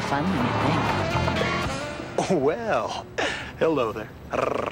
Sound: flirty growl

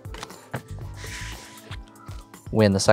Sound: cards slap on table; cards sliding

